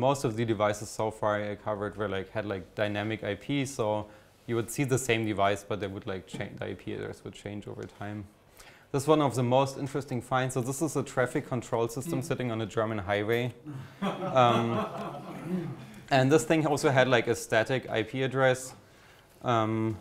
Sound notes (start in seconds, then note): 13.7 audience chuckles